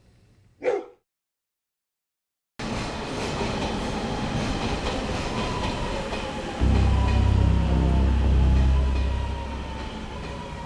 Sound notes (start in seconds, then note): 2.6 subway clacking; 6.6 intense foreboding music